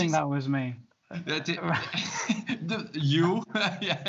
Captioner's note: laughs